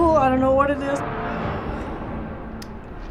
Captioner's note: corpse inhaling